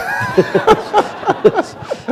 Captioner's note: laughter